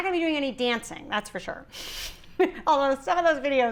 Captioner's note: giggling